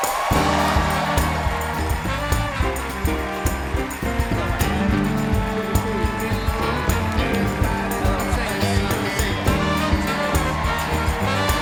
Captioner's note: applause